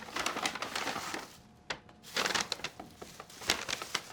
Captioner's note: bag crinkles